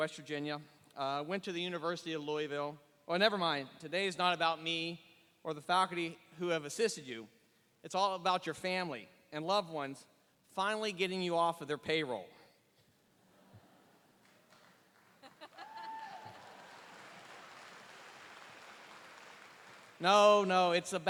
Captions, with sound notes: selves. So So, I received my undergraduate degree at West Virginia, went to the University of Louisville. Never mind, today is not about me or the faculty who have assisted you, it's all about your family and loved ones finally getting you off of their payroll. (Laughing.)